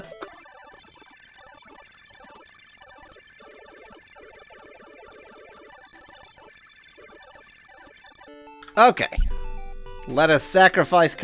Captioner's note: awkward silence